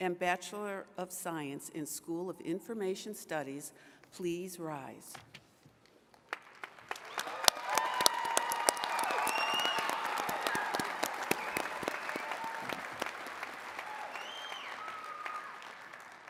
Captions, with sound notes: and Bachelor of Science in School of Information Studies, please rise. (attendees cheering and clapping)